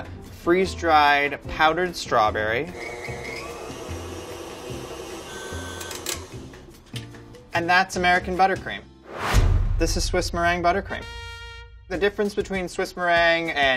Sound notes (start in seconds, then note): 2.7 whirring; 9.0 whooshing; 11.0 trumpet blares